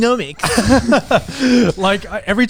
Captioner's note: laughs